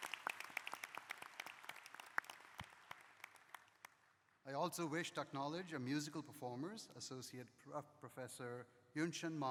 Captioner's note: applause